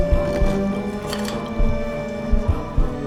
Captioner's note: medical tools clacking; eerie music